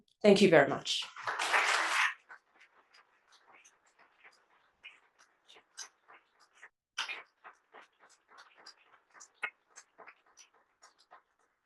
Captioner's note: applause